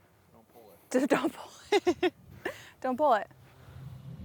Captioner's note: laughs